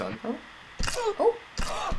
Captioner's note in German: Knochen-Snap; Segway Guy stöhnt; Schnappt nach Luft und lacht